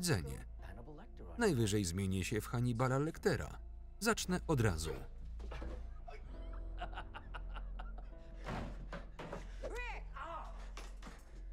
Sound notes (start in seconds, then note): 5.9 laughing